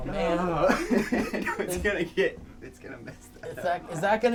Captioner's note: laughing